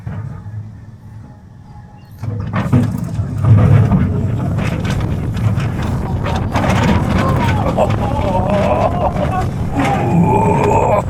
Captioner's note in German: schreien; stöhnen